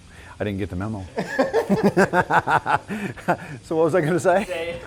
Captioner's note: laughter